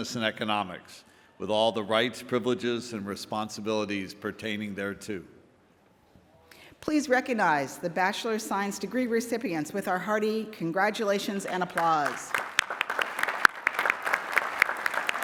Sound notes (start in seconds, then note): 11.2 applause